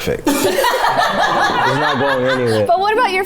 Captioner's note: everyone laughs